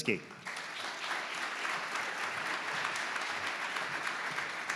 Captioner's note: audience clapping